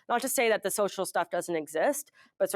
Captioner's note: none